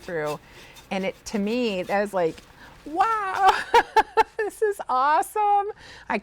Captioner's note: laughs